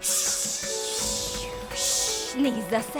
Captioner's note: imitating rattlesnake